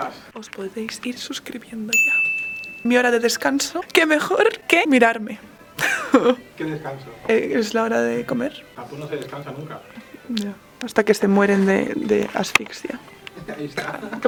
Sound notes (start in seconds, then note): 0.0 in Catalan; 5.6 haha